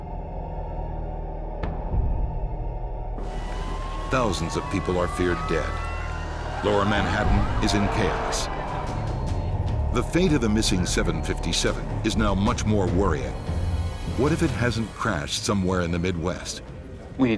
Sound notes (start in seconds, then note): 3.4 dramatic music; 3.4 sirens wail; 6.9 people screaming